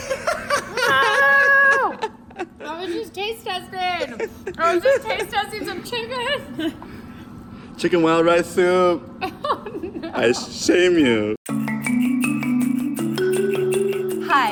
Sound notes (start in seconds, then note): 0.1 laughs; 9.3 laughs; 11.4 upbeat music